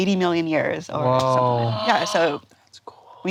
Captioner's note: gasps